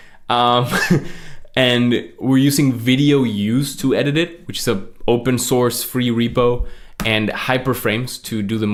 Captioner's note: laughs